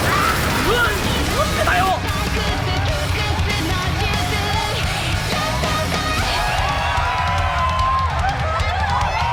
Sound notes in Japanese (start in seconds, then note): 6.2 歓声